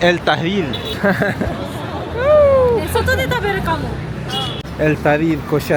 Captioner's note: laugh; speaking Japanese